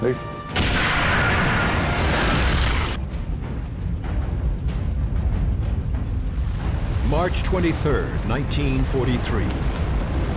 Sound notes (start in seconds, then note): 0.5 turret firing; 2.3 half-track exploding; 3.9 tank engines roaring